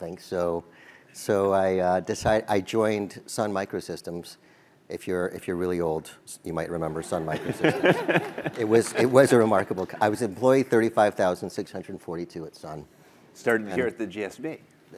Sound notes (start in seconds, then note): 7.3 laugh